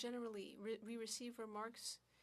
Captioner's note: speaking French